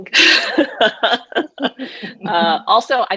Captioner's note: laughs